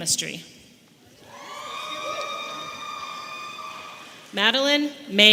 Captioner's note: audience cheering